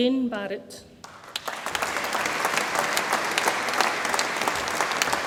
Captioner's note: audience applauds